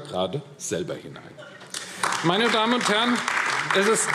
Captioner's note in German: Beifall AfD